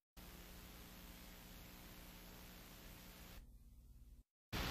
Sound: analog tape static

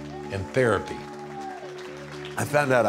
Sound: cheers and applause

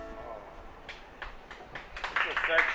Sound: hesitated applause

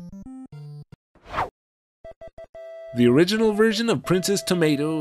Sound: whoosh

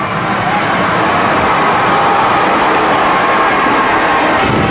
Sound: crowd cheering

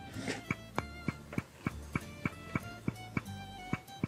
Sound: gavel knocking

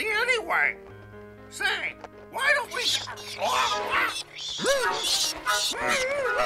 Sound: עטלפים צווחים

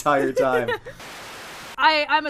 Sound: laughing; laughs; Static

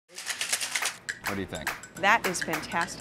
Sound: shaker rattles

